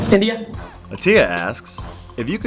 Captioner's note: voiceover